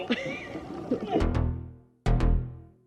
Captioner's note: laughs